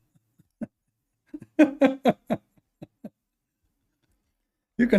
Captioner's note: Ketawa